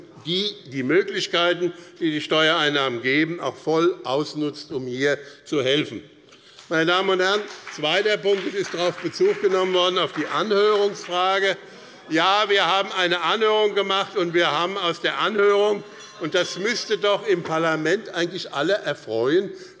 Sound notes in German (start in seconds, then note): 15.2 Unruhe - Glockenzeichen des Präsidenten